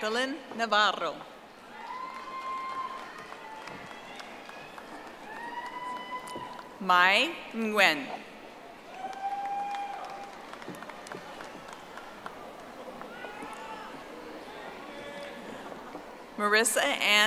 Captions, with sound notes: Jacqueline Navarro. (audience applauding) Mai Nguyen. (audience applauding)